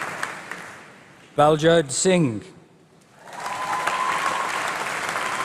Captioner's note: applause